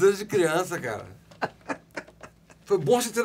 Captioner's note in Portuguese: Risadas